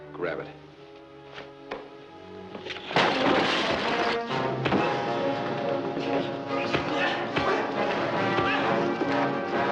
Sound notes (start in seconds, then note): 1.5 dramatic music; 2.9 loud crashing